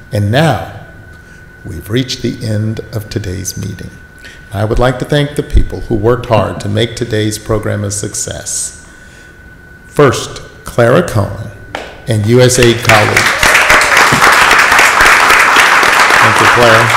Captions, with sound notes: and now we've reached the end of today's meeting. I would like to thank the people who worked hard to make today's program a success. First, Clara Cohen, and USAID colleagues. (audience applauds) Thank you, Clara.